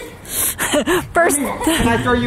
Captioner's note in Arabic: الأم تضحك